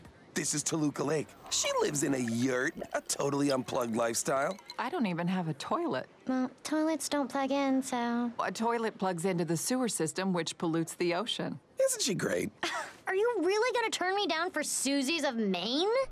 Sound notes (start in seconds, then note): 12.4 woman in costume scoffs